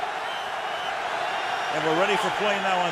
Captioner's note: whistle blows